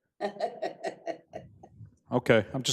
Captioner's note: laughing